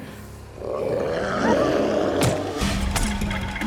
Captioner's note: Loki growls; intense music